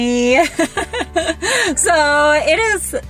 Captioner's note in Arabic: ضحك